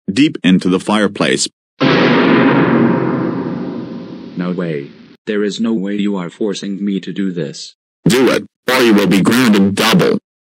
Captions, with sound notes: deep into the fireplace. *GOANIMATE SCARY SOUND* No way. There is no way you are forcing me to do this. DO IT, OR YOU WILL BE GROUNDED DOUBLE.